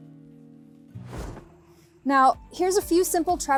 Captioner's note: screen whooshing